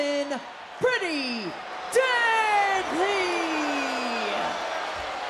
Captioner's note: audience cheering